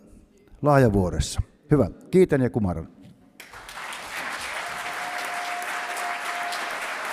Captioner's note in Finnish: Aplodeja